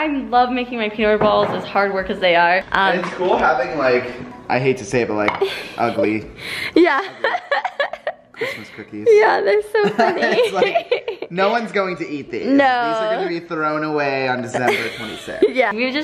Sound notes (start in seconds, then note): 6.7 laughs